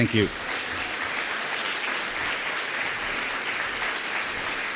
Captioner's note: applause